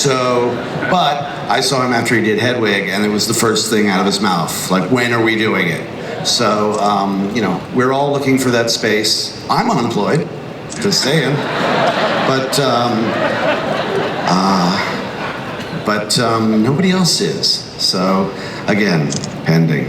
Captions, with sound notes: I saw him after he did Hedwig, and it was the first thing out of his mouth, "When are we doing it?" We're all looking for that space. I'm unemployed, just sayin'. (crowd laughs) But nobody else is, so again, pending.